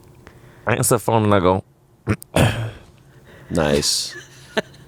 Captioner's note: clears throat